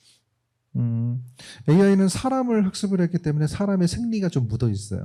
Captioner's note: speaking korean